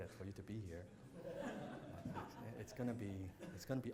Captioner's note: audience laughs